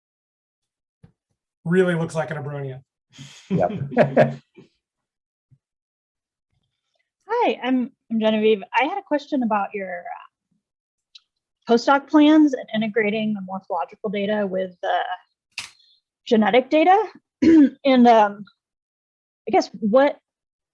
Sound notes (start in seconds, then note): 3.5 laughter